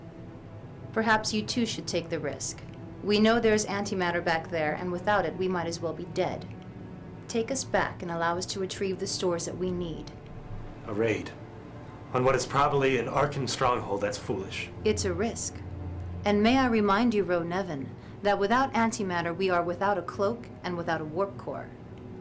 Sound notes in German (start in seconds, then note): none